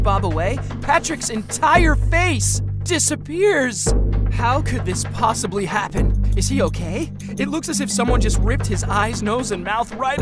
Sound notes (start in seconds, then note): none